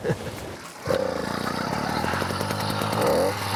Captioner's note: motor revving